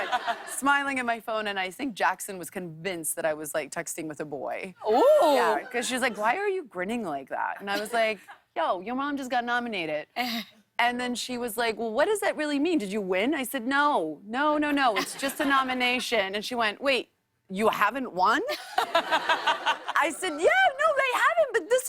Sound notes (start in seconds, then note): 18.5 laughter